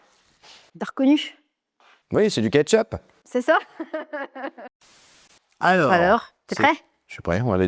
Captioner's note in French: rires